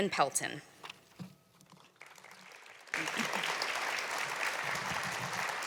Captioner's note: applause